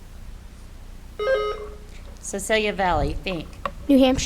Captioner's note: buzzer beeps